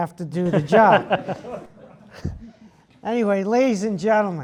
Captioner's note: laugh